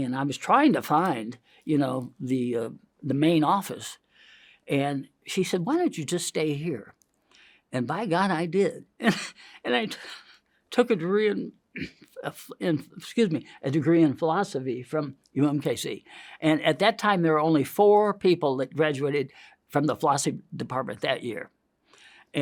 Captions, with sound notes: and I was trying to find the main office. And she said, "Why don't you just stay here?" And by God I did (coughs). And I took a degree in (clears throat) excuse me, a degree in philosophy from UMKC. And at that time there were only four people that graduated from the Philosophy Department that year.